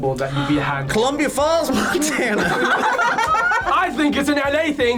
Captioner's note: group laughs